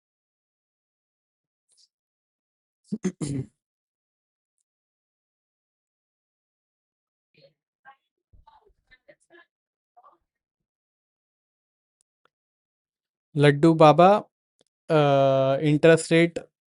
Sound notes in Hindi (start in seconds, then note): 2.9 गला साफ़ करने की आवाज़